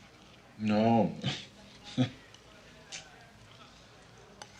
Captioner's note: chuckles